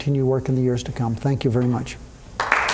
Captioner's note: applause